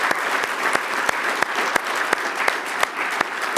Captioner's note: applause